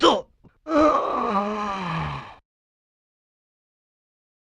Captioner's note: hilarious wail of agony